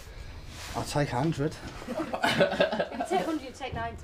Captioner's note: laughter